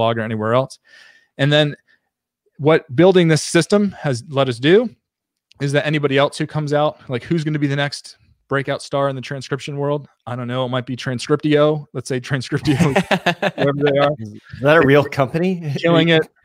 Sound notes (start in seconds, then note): 12.6 laughs